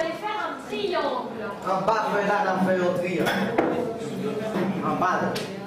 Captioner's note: speaking in French